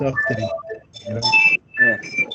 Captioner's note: ringing Noise In Background